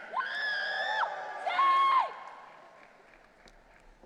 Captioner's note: audience cheering